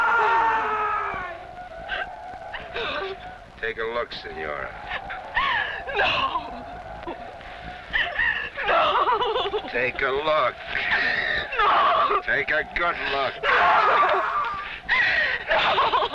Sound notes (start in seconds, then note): 6.0 whimpers